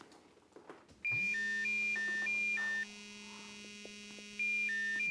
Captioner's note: phone ringing